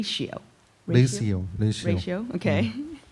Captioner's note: speaking korean